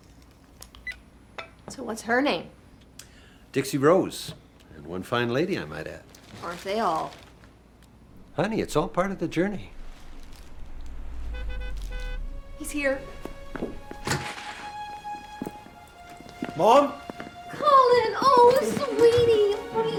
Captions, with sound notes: BYE. SO WHAT'S HER NAME? DIXIE ROSE... AND ONE FINE LADY, I MIGHT ADD. AREN'T THEY ALL? HONEY, IT'S ALL PART OF THE JOURNEY. [CAR HORN HONKS OUTSIDE] HE'S HERE! MOM? COLLIN! OH, SWEETIE!